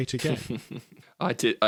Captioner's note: laughs